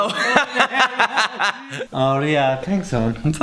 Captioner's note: laughter